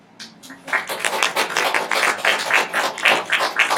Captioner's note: applauding